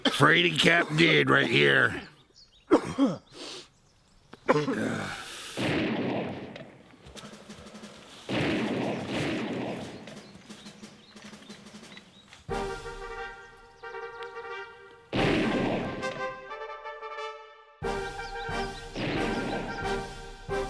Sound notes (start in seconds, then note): 7.1 gunshot bangs; 7.1 gunshots bang; 12.4 fast-paced orchestral music; 15.1 gunshot bangs